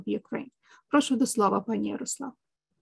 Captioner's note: speaking ukrainian